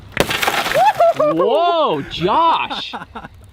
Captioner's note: glass shattering; yells happily; laughing